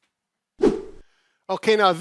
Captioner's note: air whoosh